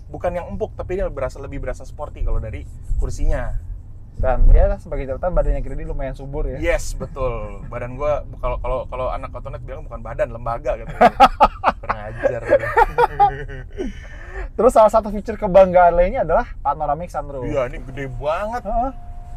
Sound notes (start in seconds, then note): 13.4 laughing